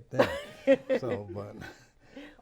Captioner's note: laughs